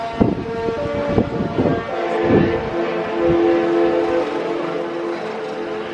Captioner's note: horn blasts